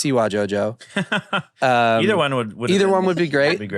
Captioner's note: laughs